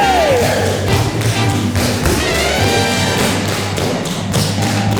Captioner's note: tapping continues